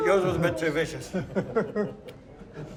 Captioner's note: laughs